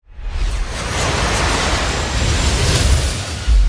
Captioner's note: jet zooming